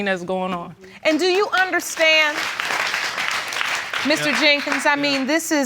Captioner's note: applause